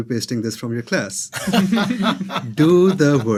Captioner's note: everyone laughing